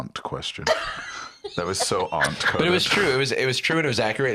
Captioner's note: laughs